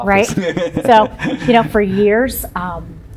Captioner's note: laughter